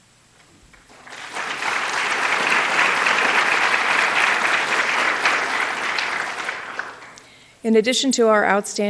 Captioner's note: applause